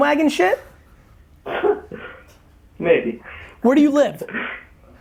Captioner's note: laughs